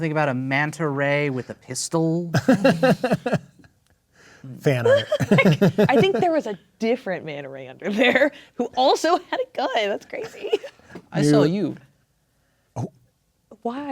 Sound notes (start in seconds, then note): 2.3 laughing; 4.6 players laughing